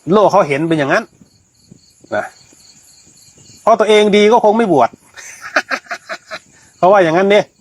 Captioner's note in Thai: เสียงหัวเราะ